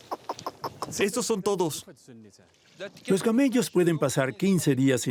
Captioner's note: Arabic spoken audio